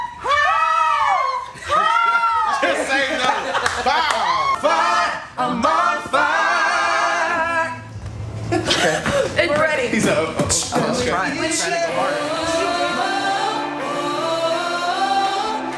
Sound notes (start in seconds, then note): 3.1 laughing